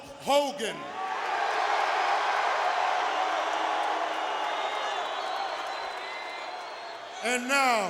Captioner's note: applause